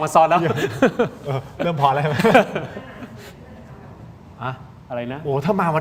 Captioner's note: laughter